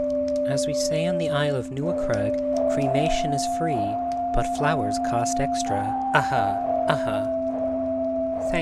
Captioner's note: defiant laugh